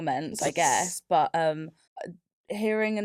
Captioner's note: laughs